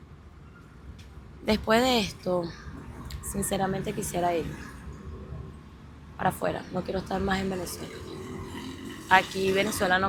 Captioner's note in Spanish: gemido